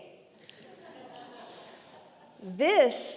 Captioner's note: congregation laughing